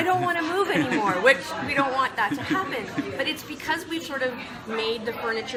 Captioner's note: all laugh